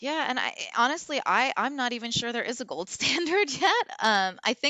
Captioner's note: laughs